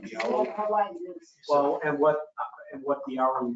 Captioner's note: speaking faintly